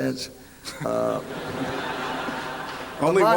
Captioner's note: applause